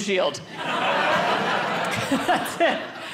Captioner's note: audience laughing